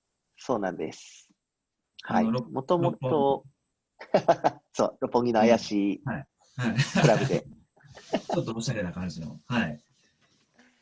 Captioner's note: laughs